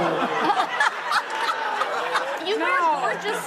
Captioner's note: audience laughing